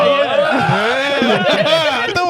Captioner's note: laughing